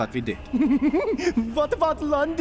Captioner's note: Squirrel-like giggles